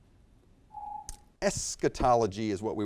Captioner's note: timer beeps